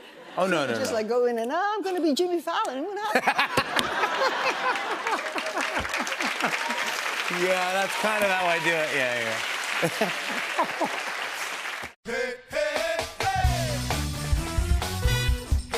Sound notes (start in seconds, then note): 3.1 laughter and applause; 9.2 applause